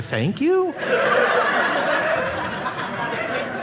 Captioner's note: audience laughing